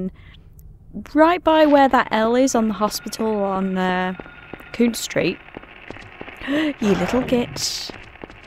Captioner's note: gasps